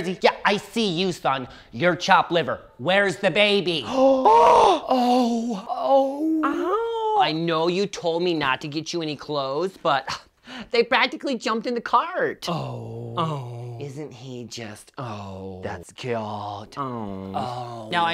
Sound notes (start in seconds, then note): 3.8 gasps